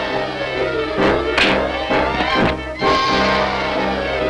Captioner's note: body thuds; fist thuds